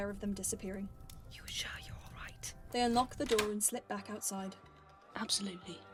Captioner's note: door unlocks